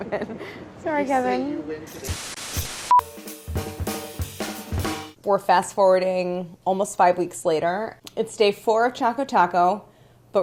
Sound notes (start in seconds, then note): 1.9 upbeat percussion music; 2.0 static scatters